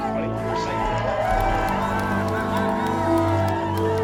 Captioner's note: crowd Cheers